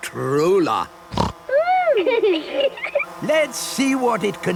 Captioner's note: snorting; laughter